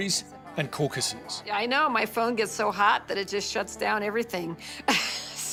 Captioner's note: on phone; laughs